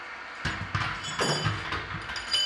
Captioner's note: clunking